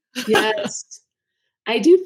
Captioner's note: laughing